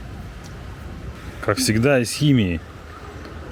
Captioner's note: sarcasm